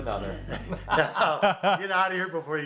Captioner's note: laughing